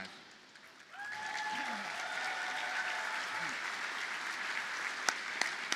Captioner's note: audience cheers and applauds